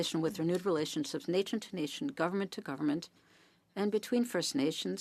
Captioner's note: speaking French